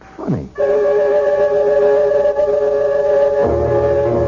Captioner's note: sirens